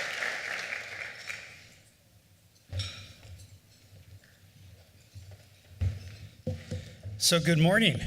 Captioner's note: applause